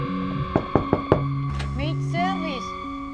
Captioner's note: knock on door